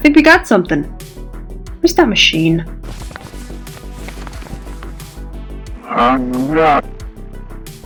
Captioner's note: more rustling papers